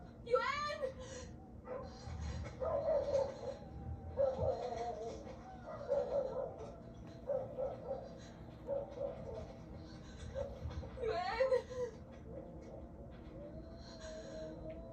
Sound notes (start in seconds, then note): 1.4 dogs' barking and howling in the cold night; 11.0 scared, frightened tone